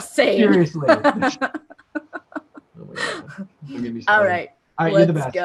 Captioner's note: laughter